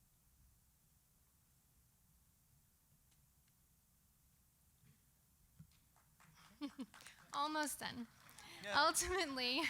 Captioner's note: applause